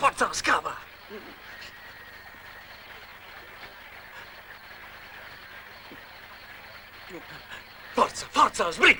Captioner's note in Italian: Applauso